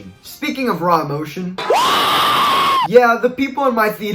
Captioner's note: cries Of Happiness